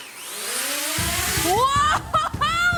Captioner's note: drone rotors whine